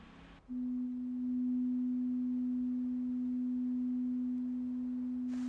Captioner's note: medium-pitched tone playing